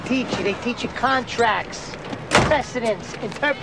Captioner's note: car door thuds